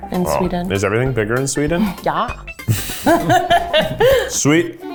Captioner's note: both laugh